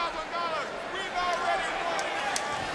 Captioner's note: crowd chatter